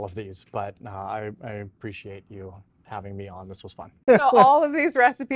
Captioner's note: chuckles